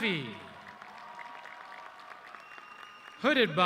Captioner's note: audience cheering